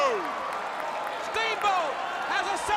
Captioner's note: crowd cheering